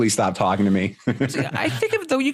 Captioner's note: laughs